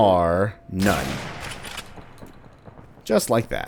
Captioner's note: bam